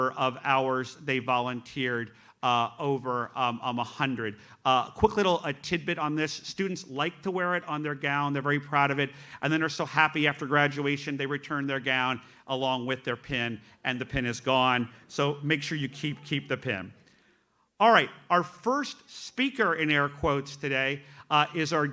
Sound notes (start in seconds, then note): none